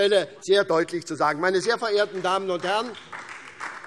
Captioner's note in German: Beifall SPD und DIE LINKE